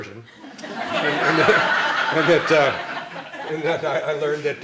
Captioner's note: laughing